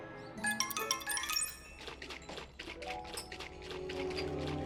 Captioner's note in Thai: เสียงเขย่าค็อกเทล